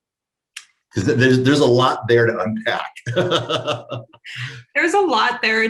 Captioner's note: laughs